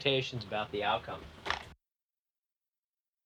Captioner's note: chair sounds